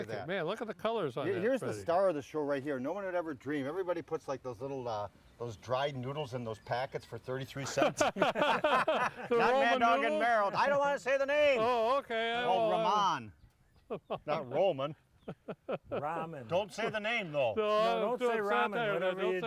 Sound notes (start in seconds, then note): 7.8 laughs; 15.3 chuckles